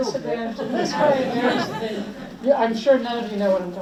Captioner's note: audience laughs